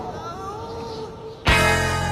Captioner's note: echoing